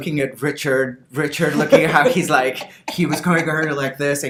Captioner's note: laughter